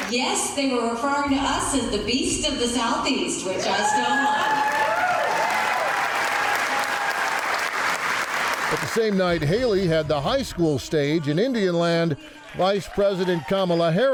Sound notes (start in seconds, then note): 3.6 audience clapping and cheering